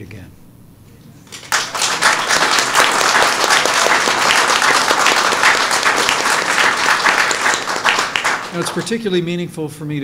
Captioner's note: applause